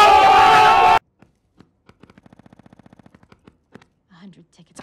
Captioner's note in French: Tapotements nerveux